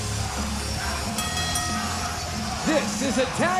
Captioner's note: bell ringing